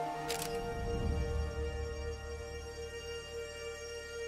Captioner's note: camera shutter clicking